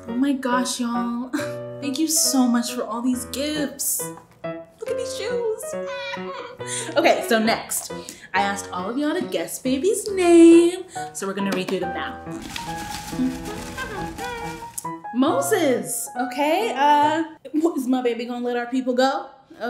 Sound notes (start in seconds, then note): 5.8 giggles; 13.5 hums; 13.9 papers rustle; 13.9 smooth music